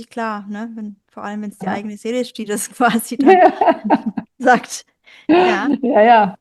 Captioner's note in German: gelächter